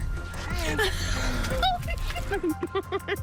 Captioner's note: giggles